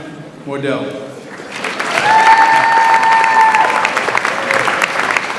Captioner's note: audience applauds